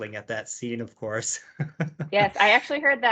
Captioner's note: laughs